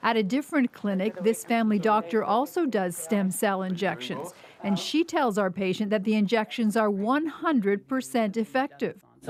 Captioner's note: none